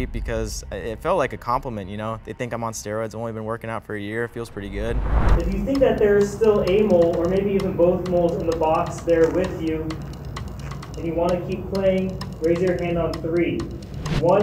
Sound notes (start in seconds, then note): 4.2 wind whooshing